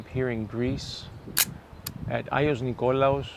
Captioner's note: camera snapshot clicking